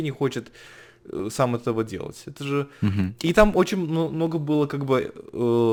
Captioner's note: chuckle